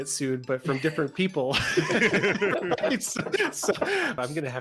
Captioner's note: everybody laughs